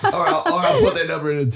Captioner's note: laughing